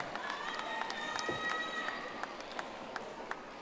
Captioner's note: audience applauding